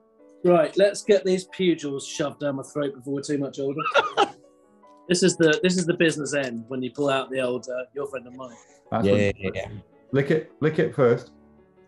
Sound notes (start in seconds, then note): 3.8 laughing